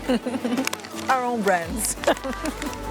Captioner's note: laughs